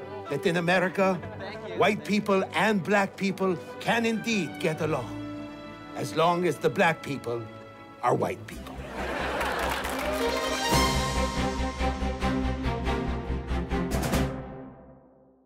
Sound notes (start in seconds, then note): 8.7 laughter; 9.1 applause